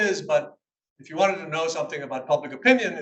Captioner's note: none